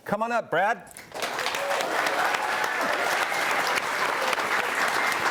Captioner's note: audience applauding